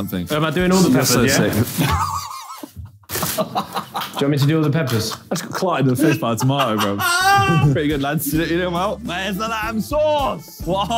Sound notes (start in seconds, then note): 1.3 Josh laughing